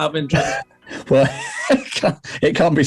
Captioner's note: laughing